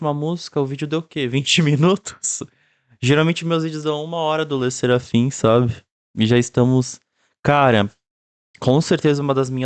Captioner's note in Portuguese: risos